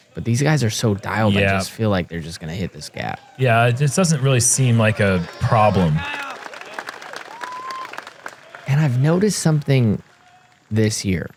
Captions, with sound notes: These guys are so dialed I just feel like they're just going to hit this gap. Yes, it just doesn't really seem like a problem. [applause] [cheering] I've noticed something this year.